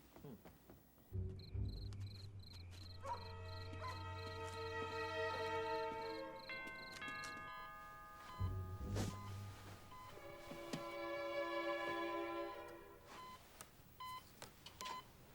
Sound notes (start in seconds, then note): 1.2 crickets chirping; 1.5 dog barks; 6.3 doorbell rings; 8.2 medical equipment beeping